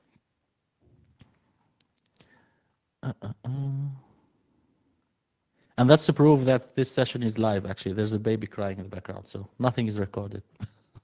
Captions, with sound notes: (hums) And that's to prove that this session is live, actually. There's a baby crying in the background. So nothing is recorded (laughs).